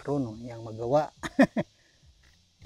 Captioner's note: laughs